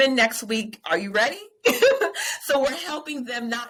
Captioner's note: laughing